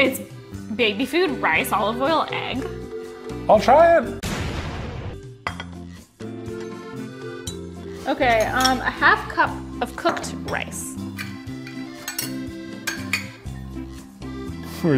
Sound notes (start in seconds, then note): 4.4 objects thudding; 5.3 bowl clinks; 11.2 lighthearted music